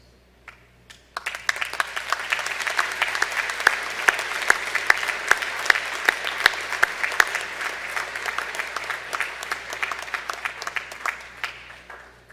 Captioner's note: applause